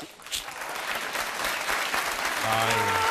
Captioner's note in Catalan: aplaudiments